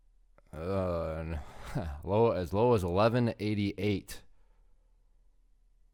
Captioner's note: sighing